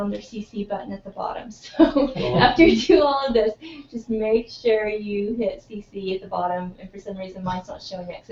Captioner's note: laugh